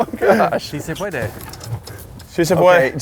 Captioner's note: speaks Spanish